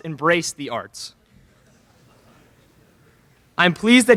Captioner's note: laughter in crowd